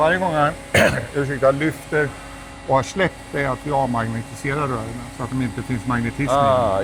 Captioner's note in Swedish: harklar sig